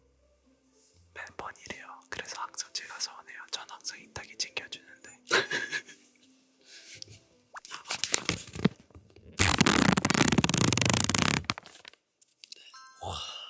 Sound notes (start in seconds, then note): 5.3 handsome laugh